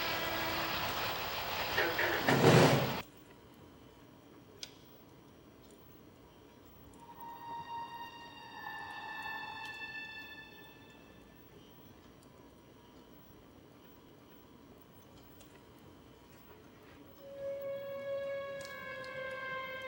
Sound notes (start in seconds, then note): 1.9 object thuds; 6.9 tense music